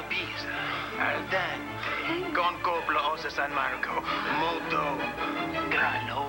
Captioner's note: italian accent